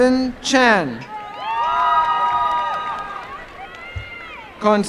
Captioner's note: applause and cheering